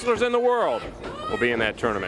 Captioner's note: crowd chatter